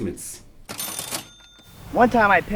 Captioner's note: cash register dings